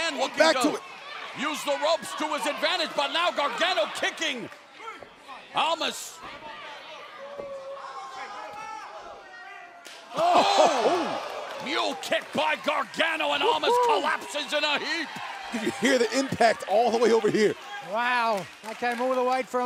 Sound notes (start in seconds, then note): 15.5 crowd chatter